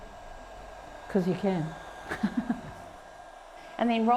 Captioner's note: chuckles